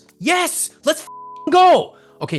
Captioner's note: beep